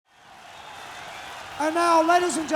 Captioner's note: crowd noise